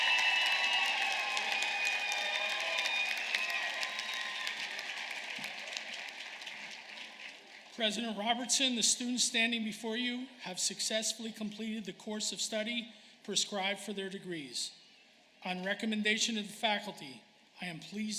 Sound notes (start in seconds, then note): 0.0 applause; 3.7 cheers and applause